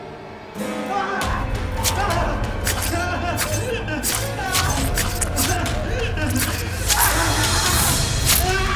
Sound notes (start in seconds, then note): 0.7 Alistair screaming; 1.5 blade rasping; 2.0 Alistair continues screaming